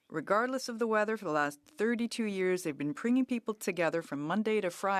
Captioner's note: speaking French